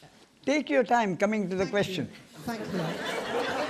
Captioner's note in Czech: smích